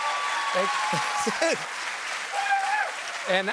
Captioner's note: applause